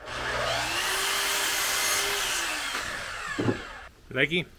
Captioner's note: saw buzzing